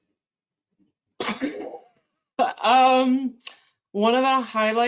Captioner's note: chuckles